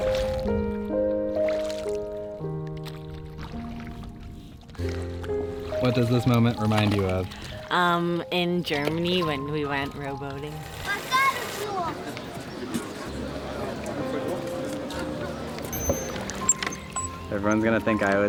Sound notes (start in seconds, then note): 10.9 boy speaking in foreign language